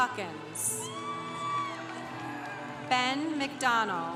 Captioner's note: congregation applauding